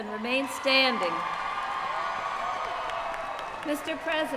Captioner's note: cheering